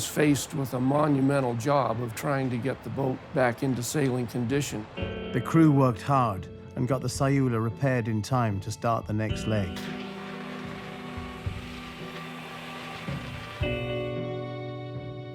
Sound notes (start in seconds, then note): 8.2 soldering iron sparking; 11.8 anticipatory music playing